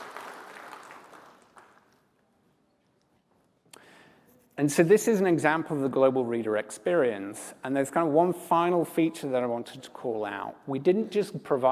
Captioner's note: applause